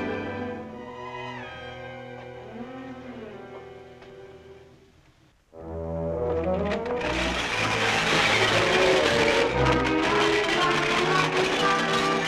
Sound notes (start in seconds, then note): 8.7 glasses shattering